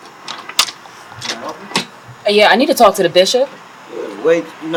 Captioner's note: door Opening